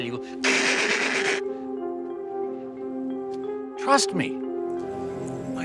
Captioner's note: gunshot sounds